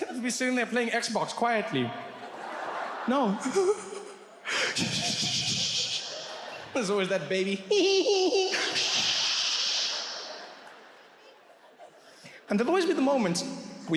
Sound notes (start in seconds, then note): 4.4 breathes frantically; 7.6 imitates baby laughing